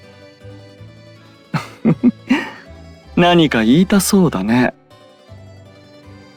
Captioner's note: laugh